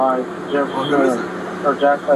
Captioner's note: radio chatter